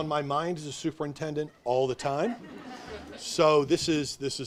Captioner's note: audience laughs